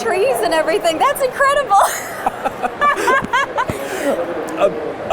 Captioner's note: laughing